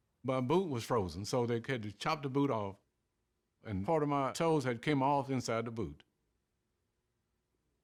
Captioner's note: none